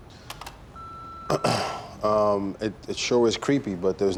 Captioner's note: clicks and beeps; clears throat